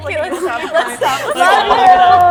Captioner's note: laughs